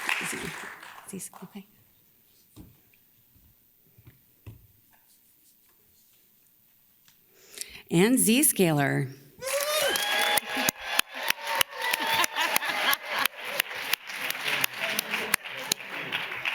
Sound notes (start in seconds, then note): 0.8 whispers; 9.4 audience cheers enthusiastically; 11.9 laughs